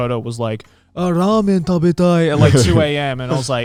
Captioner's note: speaking Japanese